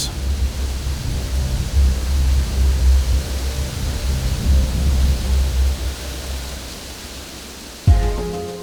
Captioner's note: sound of wind